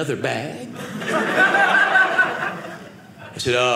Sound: audience laughing

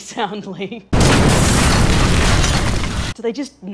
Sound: explosion

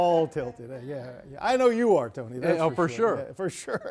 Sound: laughter

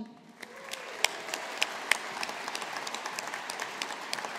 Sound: audience applauding

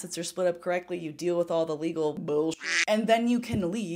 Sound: duck quacking

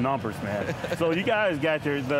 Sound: laughing

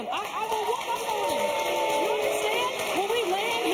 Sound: audience cheering

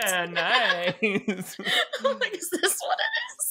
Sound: both laughing

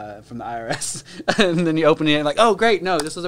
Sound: laughs

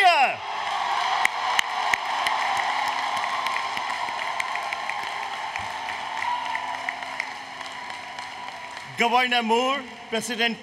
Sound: applause, Cheering

